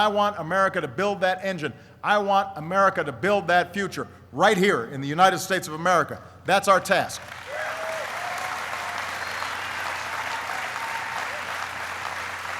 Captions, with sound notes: And I want America to build that engine. I want America to build that future, right here in the United States of America. That's our task. (applauding)